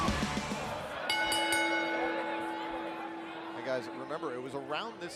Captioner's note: bell rings